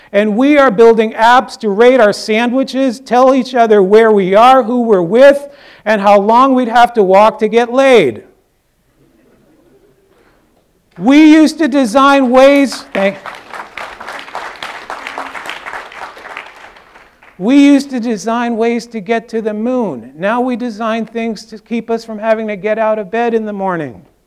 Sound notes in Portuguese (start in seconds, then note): 12.2 aplausos